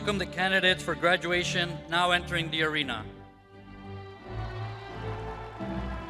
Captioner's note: regal music continues; crowd applauding